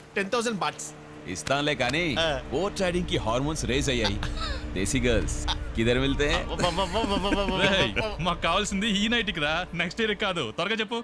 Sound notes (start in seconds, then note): 4.6 stammer